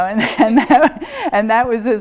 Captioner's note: chuckles